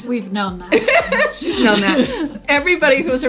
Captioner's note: laughs